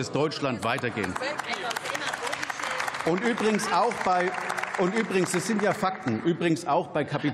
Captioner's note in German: Applaus